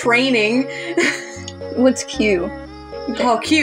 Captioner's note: chuckle